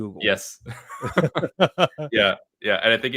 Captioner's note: laughs